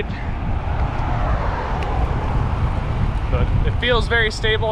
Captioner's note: air whooshing